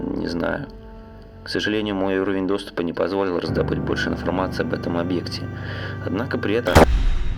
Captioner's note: static